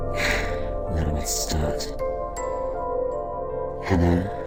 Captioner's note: exhale